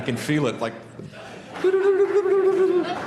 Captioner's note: laughter